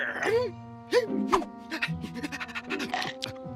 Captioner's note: panting